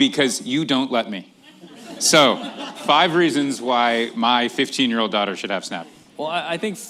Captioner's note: laughter